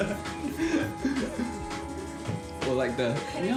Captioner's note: laughs